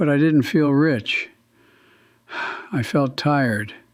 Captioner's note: sighs